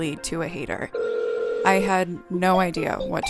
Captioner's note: phone ringing